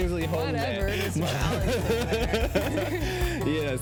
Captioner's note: laughs